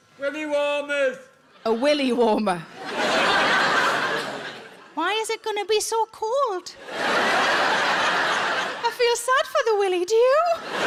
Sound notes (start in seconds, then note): 2.7 audience laughs; 6.8 audience laughs